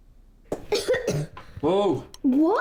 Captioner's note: Lily coughing